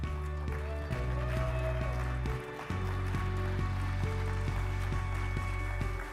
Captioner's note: crowd applauding; uplifting music